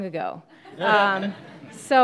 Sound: laughing

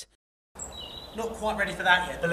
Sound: voiceover; chirping

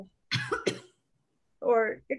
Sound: coughs

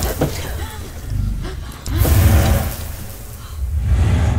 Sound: dramatic music; gasping; dramatic music

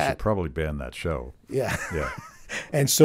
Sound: laughing

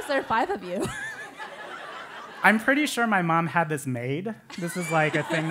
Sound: laugh

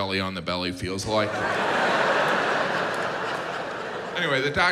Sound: audience laughs

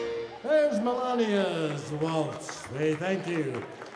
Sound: audience applauding

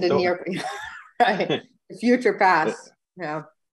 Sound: laughs

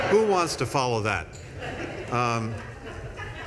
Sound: laughter

